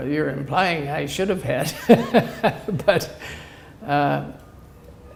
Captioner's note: laughter